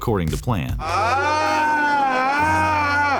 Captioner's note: groaning